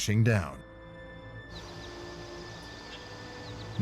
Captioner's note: birds chirping